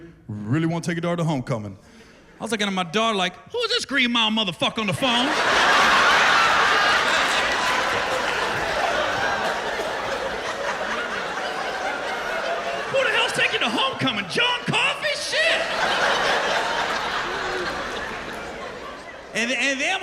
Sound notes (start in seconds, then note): 0.0 deep voice; 6.9 laughter; 18.0 laughter